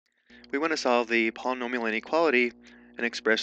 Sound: voiceover

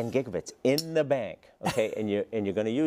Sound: laugh

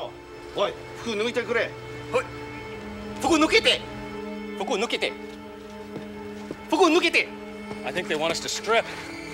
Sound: speaking japanese

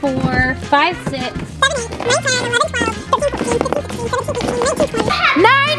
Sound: rapid sped up counting

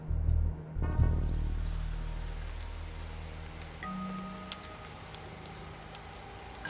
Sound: insects chirping; leaves rustling

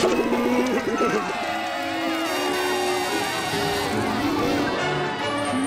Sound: cheering, trumpeting

